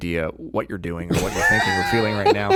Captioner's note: laughing